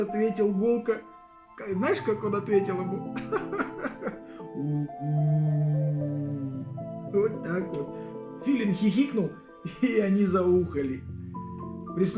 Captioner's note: laughs